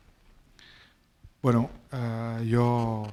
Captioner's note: speaking spanish